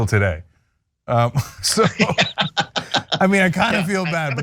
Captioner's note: laugh